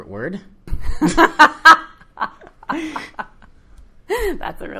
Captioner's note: laughing